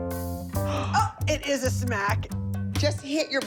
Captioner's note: gasps